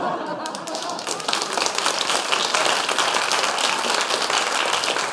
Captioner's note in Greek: χειροκροτηματα